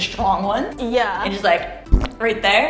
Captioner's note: bloop on pimple